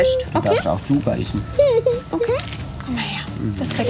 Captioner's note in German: Weinen